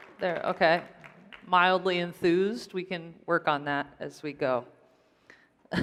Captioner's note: applause